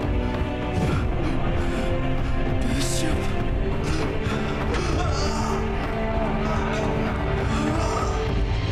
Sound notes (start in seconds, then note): 3.8 grunting